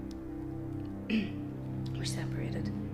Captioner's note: clearing throat